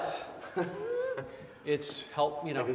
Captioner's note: Wes laughs